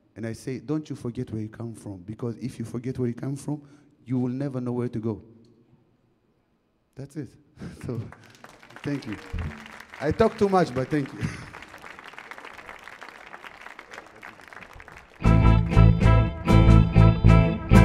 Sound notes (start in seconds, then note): 7.8 audience clapping; 15.2 upbeat music